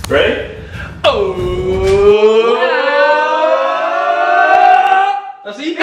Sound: suspenseful cheering

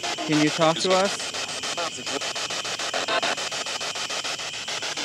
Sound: static pulsing

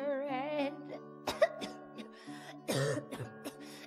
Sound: coughs

